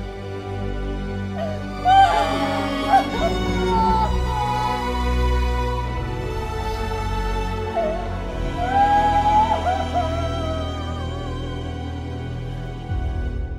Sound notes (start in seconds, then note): 1.4 Crying